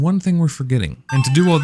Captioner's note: slot machine jackpot sounds